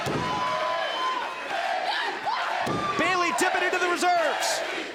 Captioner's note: crowd sheering